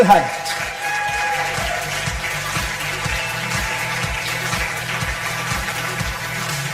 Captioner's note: audience applause; upbeat music